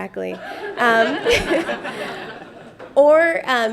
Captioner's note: laughter